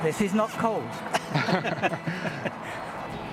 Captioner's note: laughter